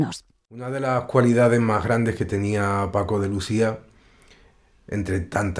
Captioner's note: musician speaking in Spanish